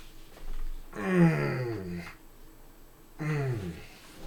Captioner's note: groaning